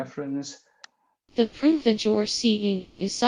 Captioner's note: synthesized voice